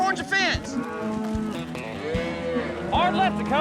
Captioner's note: mooing